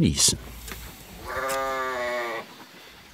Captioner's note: bleating